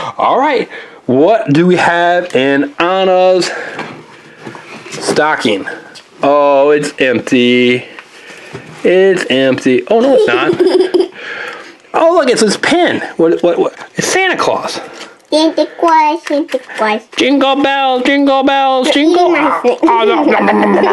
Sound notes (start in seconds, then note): 10.0 assistant laughs; 19.5 laughs